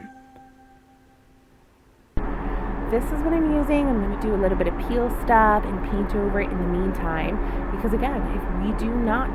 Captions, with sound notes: we will be replacing them This is what I'm using [fan and construction noises] this is peel stop and I'll paint over it in the meantime